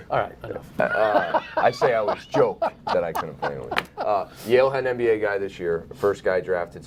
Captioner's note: laughter